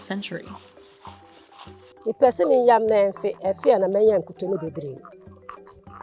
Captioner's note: speaking foreign language